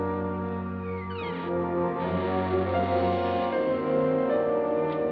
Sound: ominous dramatic music; gate creaks; ominous dramatic music

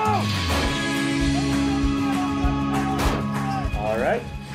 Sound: gunshots

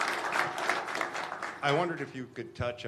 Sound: applause

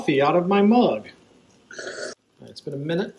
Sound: unpleasant drinking sounds

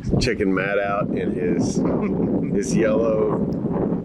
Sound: laughs

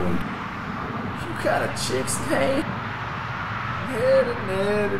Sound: chuckles

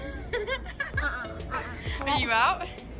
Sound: giggling

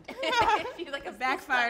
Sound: all laugh

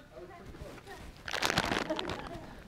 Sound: bag rustling

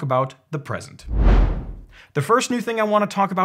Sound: whooshing

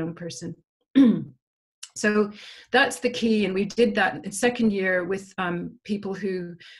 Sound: cough

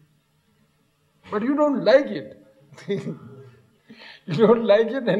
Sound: laughs

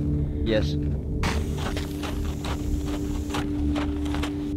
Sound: tire hissing

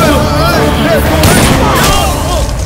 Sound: gunshot

